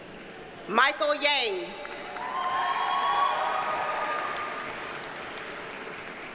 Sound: audience cheers and applauds

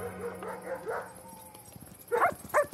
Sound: dog barking

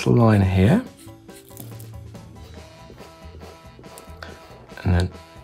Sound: pen scratching

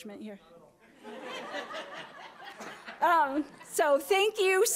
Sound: audience laughing

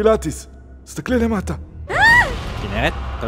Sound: screams

